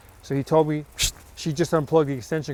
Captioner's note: light swooshing